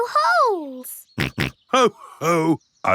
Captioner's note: snorts